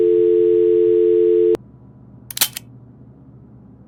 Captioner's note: telephone disconnect tone